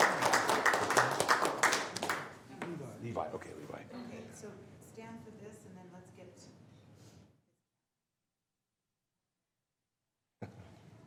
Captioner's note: applause